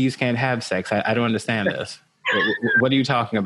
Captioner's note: laughing